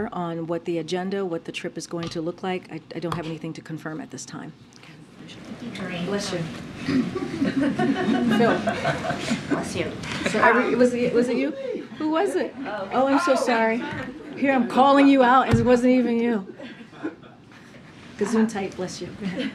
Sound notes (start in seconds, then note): 6.8 A White House staffer sneezes; 6.9 laughter; 13.3 laughter